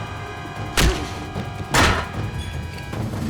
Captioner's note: organ squelching; fist thuds; head thuds